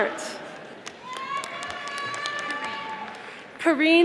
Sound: audience applauding

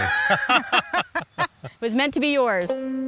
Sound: laughing

